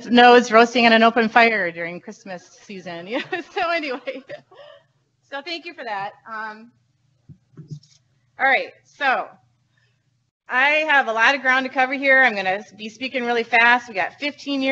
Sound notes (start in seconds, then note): 3.0 laughs